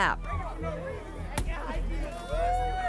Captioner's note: crowd shouting